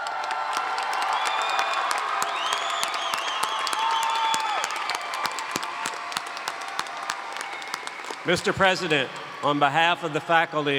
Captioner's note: cheers and Applause